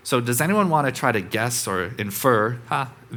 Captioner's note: none